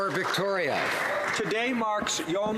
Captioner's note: some Applause